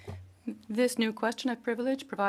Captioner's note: speaking French